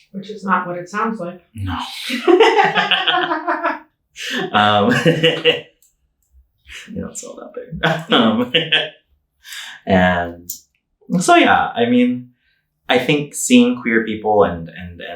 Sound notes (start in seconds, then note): 1.7 both laughing